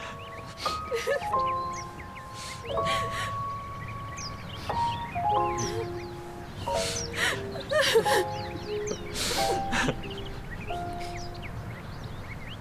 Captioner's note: sniffling; crying